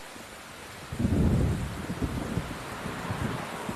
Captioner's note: thundering